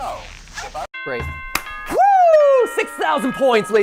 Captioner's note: claps